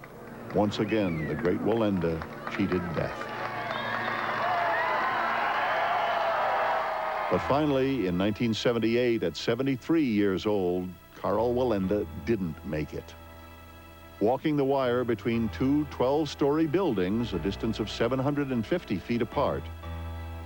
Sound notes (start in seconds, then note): 3.8 crowd cheering and applauding